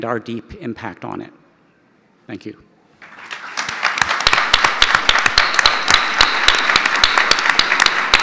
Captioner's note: audience applause